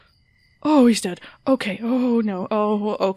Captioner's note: panicking